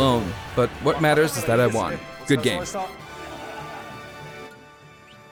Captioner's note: cheery orchestral music; laughter